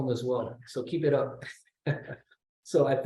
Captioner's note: laughs